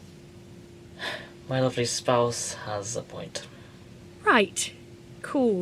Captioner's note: sighs